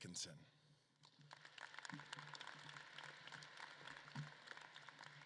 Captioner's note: audience claps